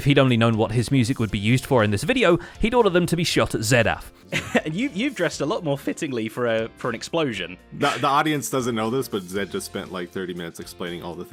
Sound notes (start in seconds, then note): 4.3 laughs